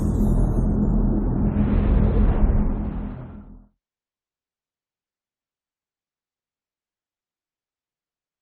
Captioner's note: dramatic sound